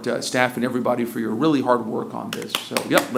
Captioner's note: applause